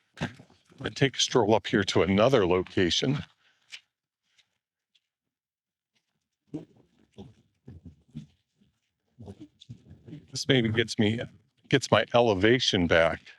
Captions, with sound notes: I'm going to take a stroll up here to another location. (footsteps) This maybe gets my elevation back.